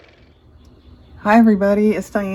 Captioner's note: car motor